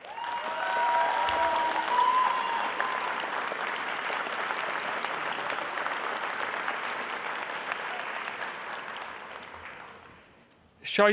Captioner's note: applause